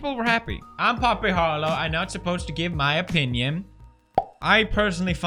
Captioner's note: powp